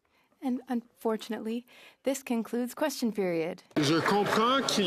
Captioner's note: applause